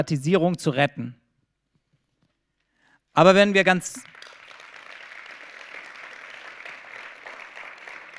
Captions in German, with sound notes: Aber wenn wir ganz… [Applaus]